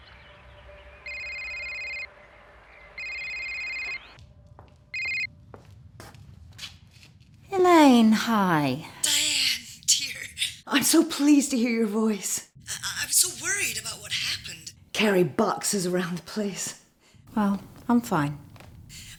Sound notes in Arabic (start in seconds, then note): 0.0 زقزقة الطيور; 4.9 رنين الهواتف